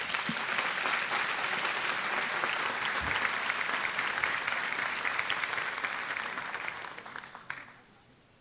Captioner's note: applause